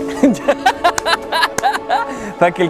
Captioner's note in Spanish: laughs